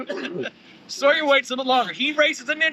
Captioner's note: laughter